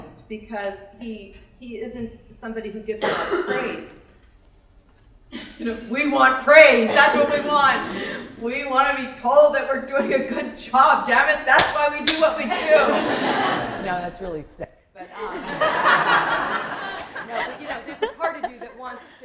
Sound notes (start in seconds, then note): 15.1 laughter